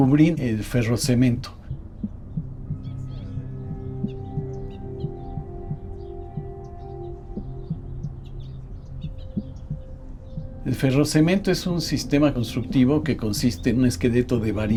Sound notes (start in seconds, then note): 2.8 birds chirping; 2.8 soft ethereal music; 10.8 continues in Spanish